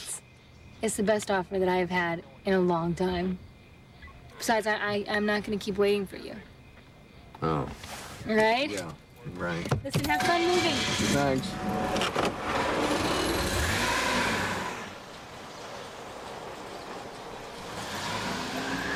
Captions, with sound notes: it's the best offer that I have had in a long time. Besides, I am not gonna keep waiting for you. - Oh. - Right. - Yeah. Right. - Listen, have fun moving. - Thanks. (car engine revving)